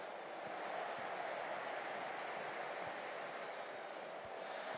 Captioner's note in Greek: χειροκρότημα